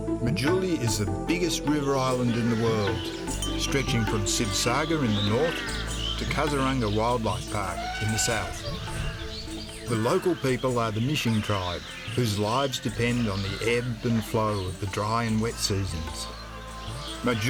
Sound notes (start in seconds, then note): 3.0 birds singing; 8.8 elephant trumpets